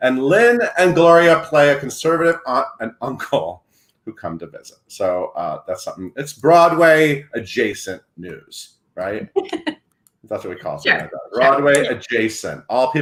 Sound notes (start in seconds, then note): 9.3 laughs